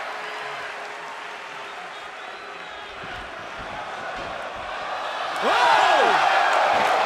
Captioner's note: crowd chatter